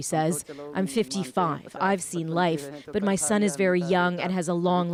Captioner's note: speaking alternate language